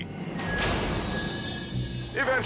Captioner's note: door slams